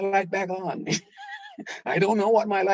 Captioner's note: laughing